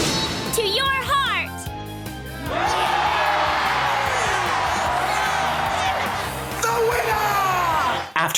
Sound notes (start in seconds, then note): 2.4 all cheering